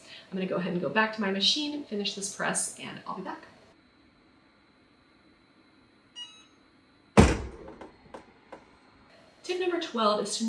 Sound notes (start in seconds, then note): 6.2 AutoPress beeps; 7.2 AutoPress latch thuds